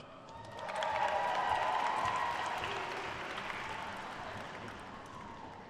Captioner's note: attendees cheering and applauding